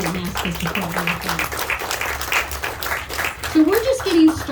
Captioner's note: audience clapping